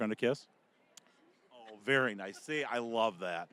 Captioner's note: kissing noise